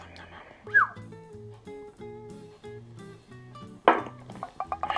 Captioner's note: whistles